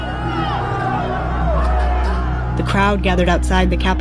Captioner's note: shouting